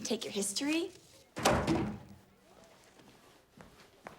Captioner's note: book thuds